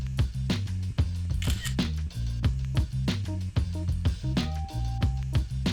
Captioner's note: camera shutter click